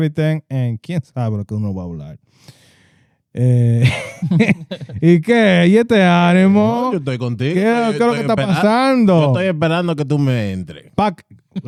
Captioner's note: speaking Spanish